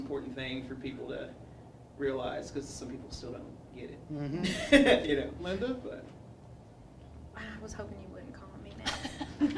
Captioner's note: laughter